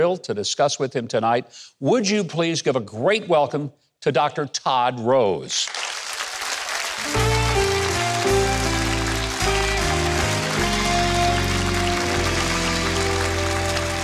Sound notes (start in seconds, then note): 5.6 audience applauding; 7.0 gentle music